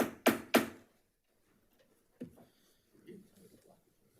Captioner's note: gavel clacks